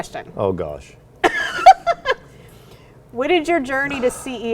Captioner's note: laughs